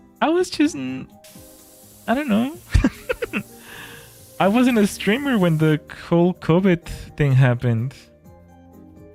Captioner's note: laughter